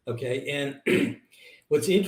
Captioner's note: clears throat